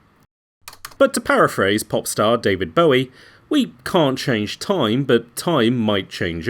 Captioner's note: keyboard click. Music Stops